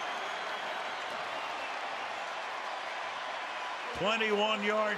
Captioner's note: cheering